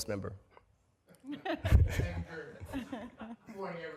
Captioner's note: laughter